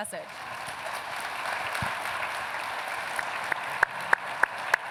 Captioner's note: applause